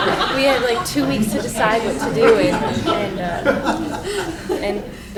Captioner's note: laughing